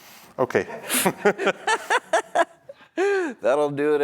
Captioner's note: laughter